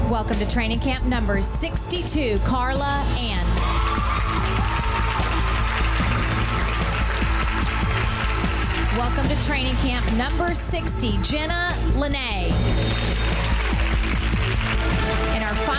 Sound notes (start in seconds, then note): 3.5 girls cheering; 13.1 girls applauding